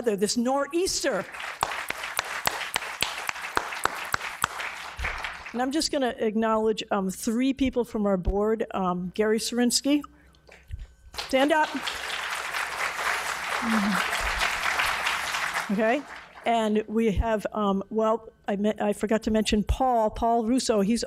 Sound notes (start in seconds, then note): 1.1 audience applauding